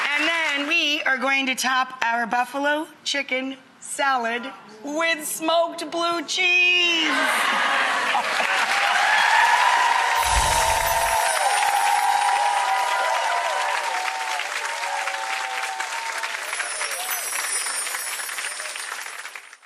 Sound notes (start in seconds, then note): 0.0 applause; 7.0 applause